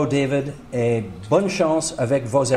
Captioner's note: in English; speaking in French